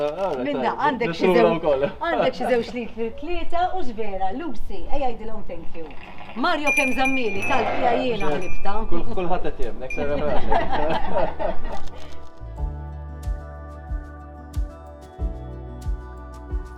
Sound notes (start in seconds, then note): 10.0 chuckles; 14.0 ambient music